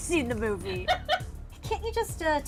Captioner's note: laughs